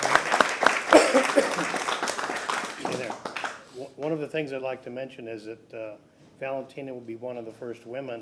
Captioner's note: applause